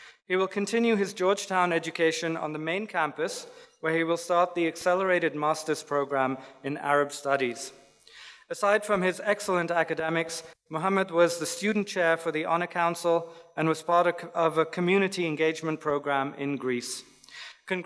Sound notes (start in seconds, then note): none